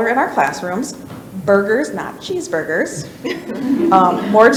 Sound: people laugh

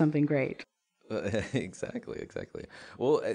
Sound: laughs

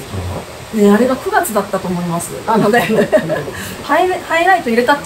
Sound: laughs

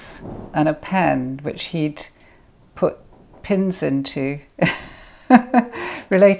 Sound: laughs

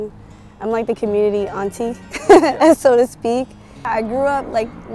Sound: laughs

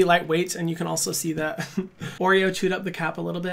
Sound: laughs

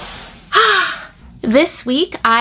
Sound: A big sigh

